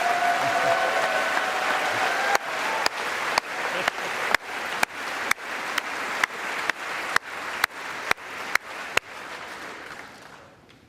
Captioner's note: applause